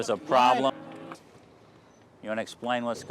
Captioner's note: muted